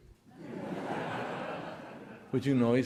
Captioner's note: audience laughing